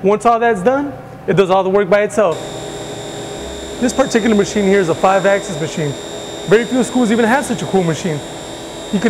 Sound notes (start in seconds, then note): 2.3 machine whirring